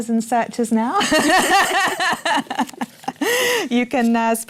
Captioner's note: laughter